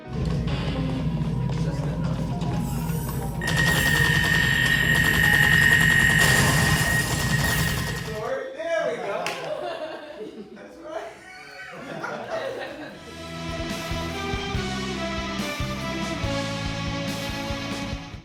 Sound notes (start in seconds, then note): 0.1 sound of video game play; 12.5 laughter; 13.1 dramatic music